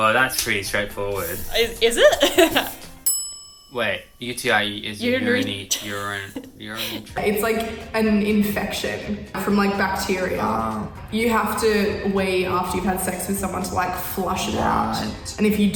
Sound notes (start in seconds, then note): 1.9 chuckles; 3.0 ding noise; 6.1 stuttering